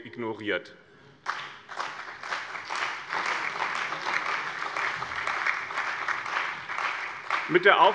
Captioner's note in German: Beifall bei dem BÜNDNIS 90/DIE GRÜNEN und der CDU